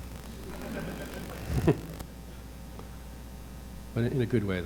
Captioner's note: audience laughing